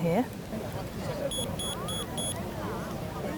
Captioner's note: beeping